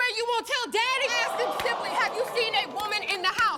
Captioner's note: audience groaning